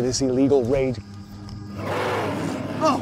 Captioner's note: creature roars